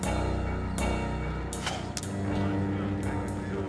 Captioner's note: spits